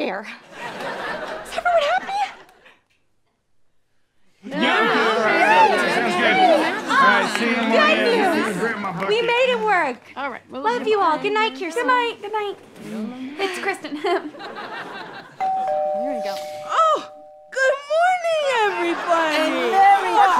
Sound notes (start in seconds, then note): 0.4 audience laughing; 4.4 various noises of agreement; 13.9 chuckles; 15.4 doorbell rings